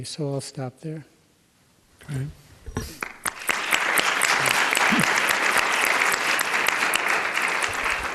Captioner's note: applause